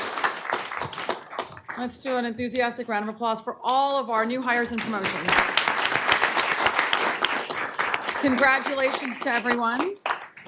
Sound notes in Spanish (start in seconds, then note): 0.0 aplausos; 4.5 aplausos